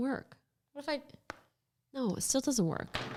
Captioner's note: pencil tapping